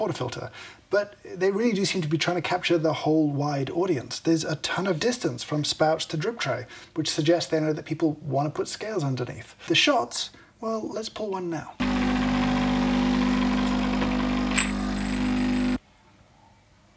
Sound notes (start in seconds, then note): 11.8 coffee machine hums